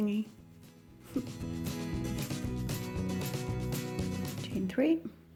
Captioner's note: chuckling